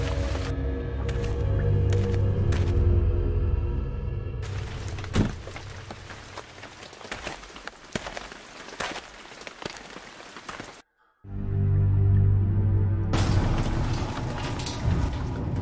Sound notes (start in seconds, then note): 4.5 car door slams, footsteps; 11.0 creepy music